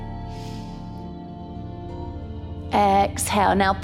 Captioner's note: calm music; inhales